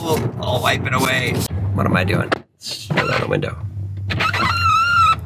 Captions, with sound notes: Ooh, I'll wipe it away. What am I doing? Roll down the window. (window squeaking)